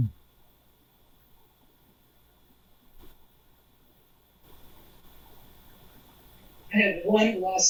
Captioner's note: pauses 6 seconds